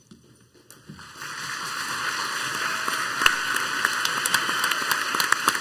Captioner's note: crowd applauds heartily